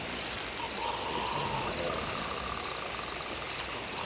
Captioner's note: Bruto snores